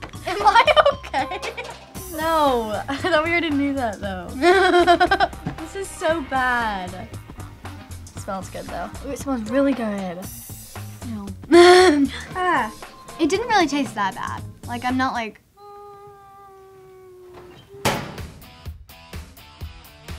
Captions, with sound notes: Am I OK? No, I thought we already knew that though. [laughing] This is so bad. It smells good though. Ooh, it smells really good. - Ew. - Ah. It didn't really taste that bad. Like, I'm not like...